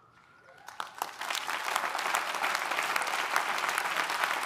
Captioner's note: audience applauding